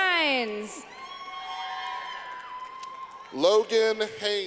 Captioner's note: clapping